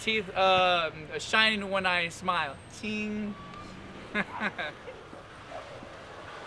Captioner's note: chuckling